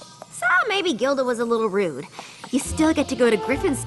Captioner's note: none